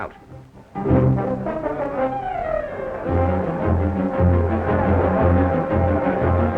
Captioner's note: people chattering; dramatic music